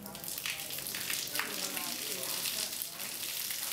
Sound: sound of water splashing against concrete

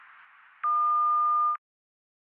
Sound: phone beeps

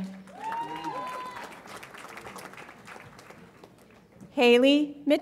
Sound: audience applauds and cheers

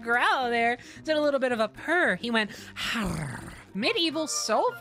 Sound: purring Noise

